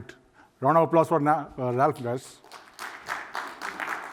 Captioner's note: applause